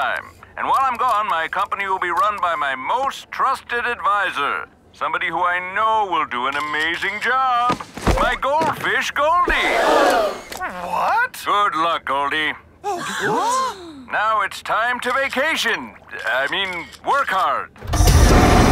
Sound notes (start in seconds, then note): 9.6 crowd gasps